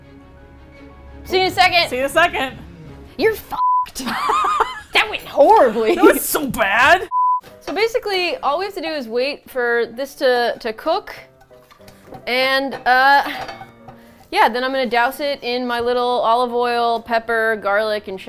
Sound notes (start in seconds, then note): 3.9 laughs